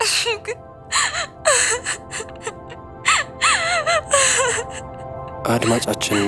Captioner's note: crying